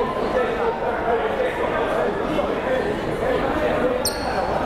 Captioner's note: crowd murmuring